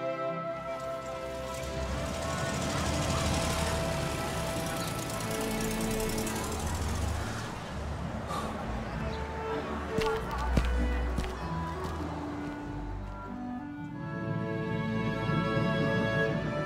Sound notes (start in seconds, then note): 0.9 engine revving; 8.2 Harris sighs